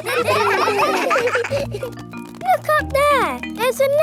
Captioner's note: children laughing